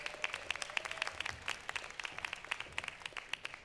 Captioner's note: applause